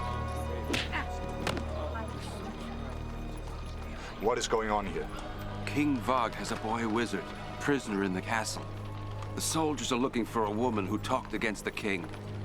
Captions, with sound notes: (smack) - What is going on here? - King Vog has a boy wizard prisoner in the castle. The soldiers are looking for a woman who talked against the king